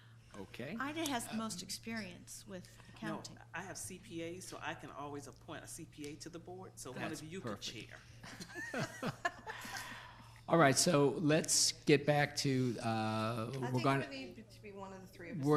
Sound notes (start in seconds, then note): 8.1 laughs